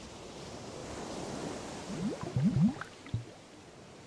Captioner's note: waves crashing